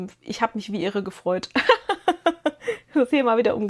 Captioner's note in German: gelächter